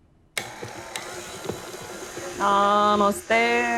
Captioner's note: mixer whirs